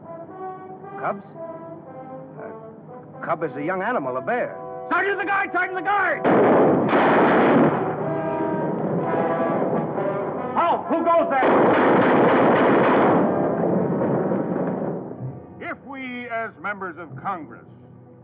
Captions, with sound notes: - Cubs? A cub is a young animal, a bear. - Sergeant, the guards! Sergeant, the guards! (guns firing) - Halt! Who goes there? (gun firing) - If we as members of Congress,